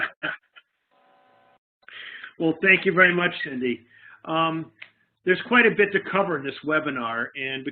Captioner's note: laughing